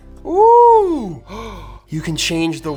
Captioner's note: gasping